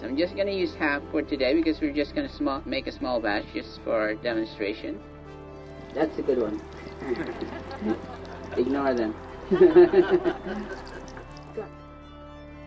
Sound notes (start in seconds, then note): 6.8 laughter; 11.4 peaceful music continues